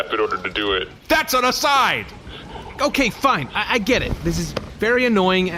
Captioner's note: accusatory